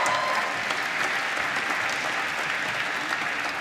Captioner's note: applause